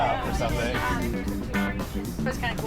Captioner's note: chatter; upbeat music